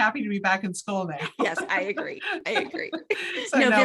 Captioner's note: both laugh